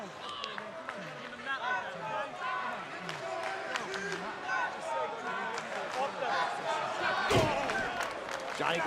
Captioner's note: crowd cheering